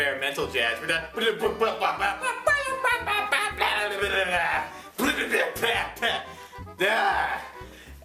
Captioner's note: imitates experimental jazz in Hell's Waiting Room